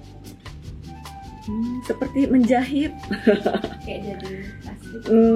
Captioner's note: laughs